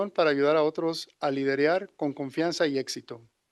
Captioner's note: non-english speech